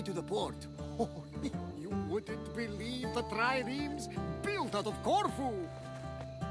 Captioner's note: laughs